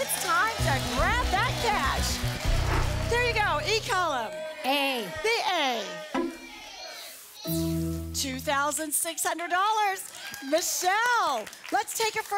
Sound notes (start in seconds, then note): 2.3 audience applause